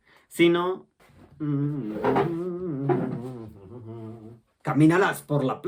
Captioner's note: humming